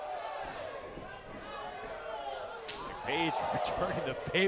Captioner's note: crowd chatter